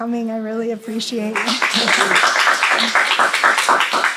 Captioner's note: applause